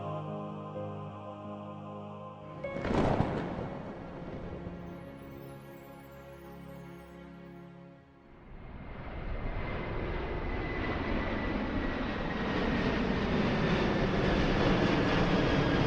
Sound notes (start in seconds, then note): 4.3 bright music continues; 8.4 airplane whooshing